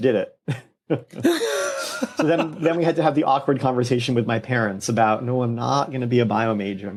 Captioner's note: laughter